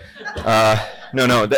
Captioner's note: laughter